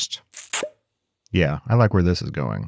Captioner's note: bottle popping